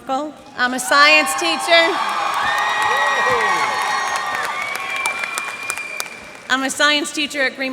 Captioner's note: cheers and applause